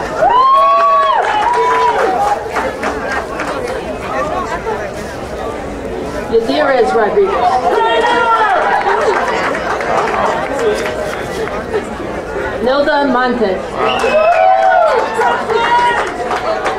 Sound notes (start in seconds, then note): 0.0 crowd cheering; 7.1 crowd cheering; 13.6 crowd cheering